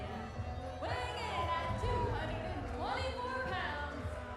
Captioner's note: crowd cheering